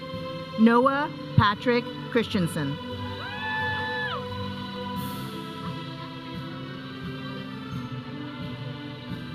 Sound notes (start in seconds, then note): 3.2 audience cheering; 4.7 processional music